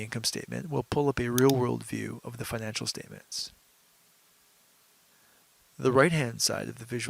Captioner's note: mouse click